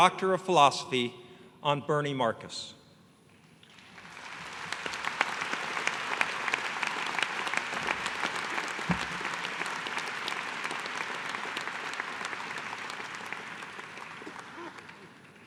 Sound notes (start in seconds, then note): 3.4 applause